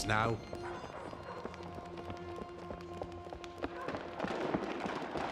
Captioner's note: hurried footsteps pattering; distant gun fires rapidly